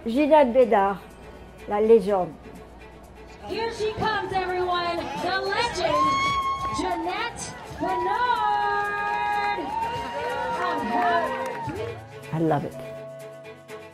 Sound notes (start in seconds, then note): 1.5 speaks foreign language; 9.8 crowd cheering